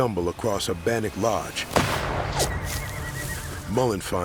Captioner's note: gunshot